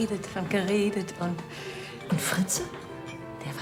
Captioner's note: none